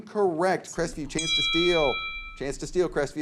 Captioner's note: bell dings